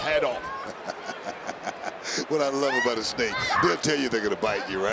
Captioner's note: chuckles